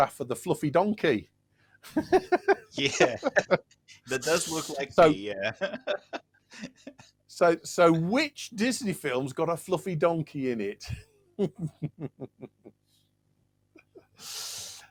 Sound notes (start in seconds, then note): 1.8 laughter